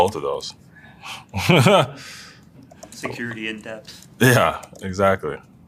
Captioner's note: laugh